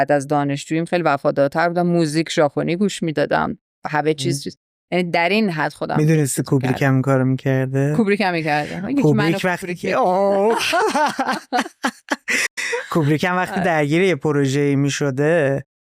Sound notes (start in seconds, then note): 10.3 laughter